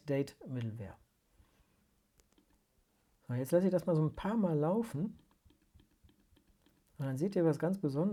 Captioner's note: click, click